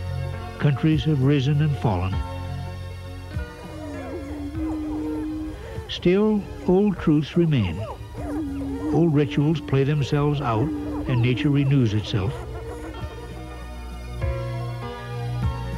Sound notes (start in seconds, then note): 3.9 prairie chicken sounds